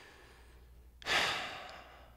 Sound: sigh

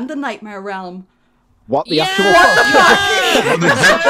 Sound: cheering

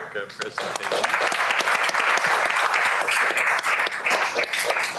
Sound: applause

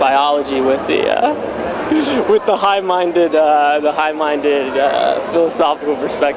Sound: laughs

